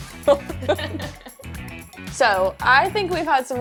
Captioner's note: chuckle